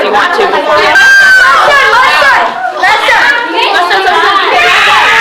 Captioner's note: screaming